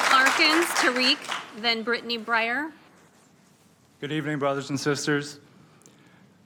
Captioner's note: applause